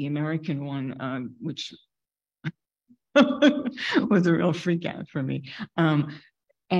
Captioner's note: laughing